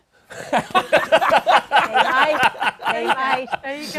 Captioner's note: laughter